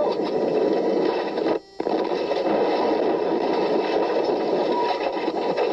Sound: sound of Impact

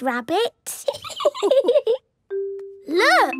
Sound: laughing

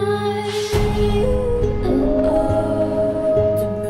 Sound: howl

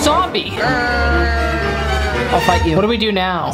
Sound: growls

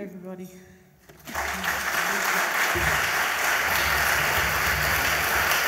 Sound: audience applauds

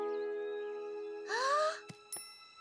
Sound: gasps

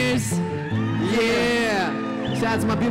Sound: cheers

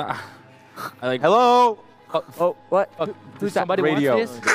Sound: radio

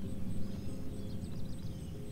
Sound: birds chirping

